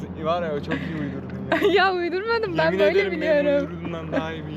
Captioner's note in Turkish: kahkaha